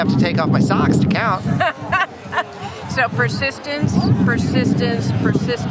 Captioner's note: laughs